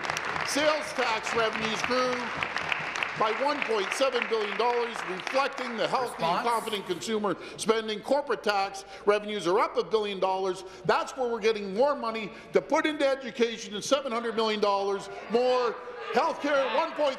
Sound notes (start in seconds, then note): 3.0 applause